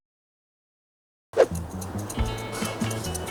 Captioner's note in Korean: 휙 소리